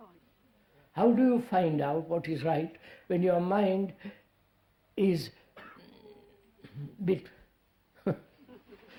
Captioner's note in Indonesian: tertawa